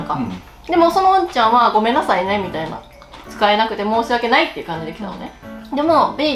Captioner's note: in a obvious voice